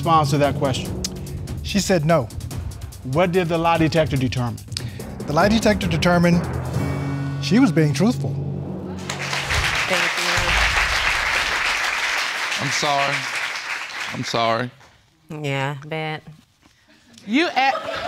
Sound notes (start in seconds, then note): 8.9 audience applauding